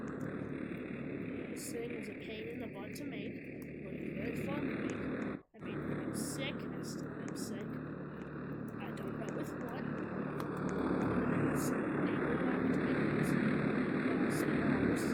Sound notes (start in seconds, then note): 10.6 E N G I N E sound